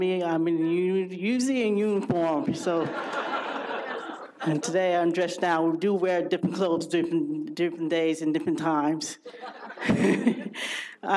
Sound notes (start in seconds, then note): 2.8 audience laughs; 9.2 laughs